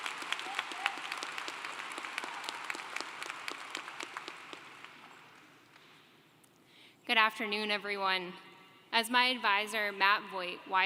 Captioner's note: applause